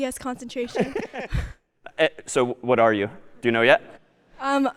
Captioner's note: می خندد